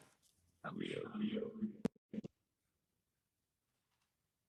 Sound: audio warbling

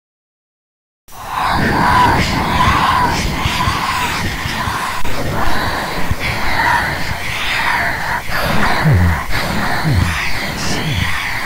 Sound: ghost sound

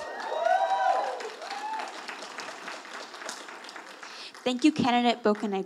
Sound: audience applauding

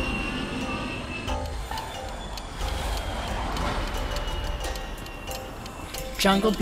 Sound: missiles whizzing through air

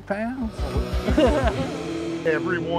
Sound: laughter

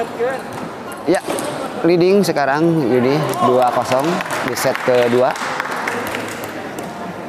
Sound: applause

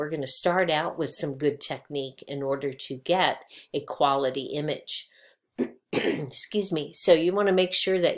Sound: clears voice

